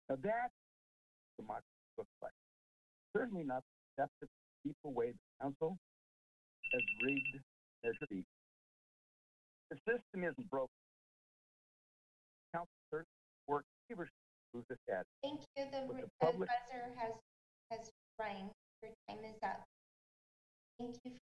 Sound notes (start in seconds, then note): 6.6 timer beeping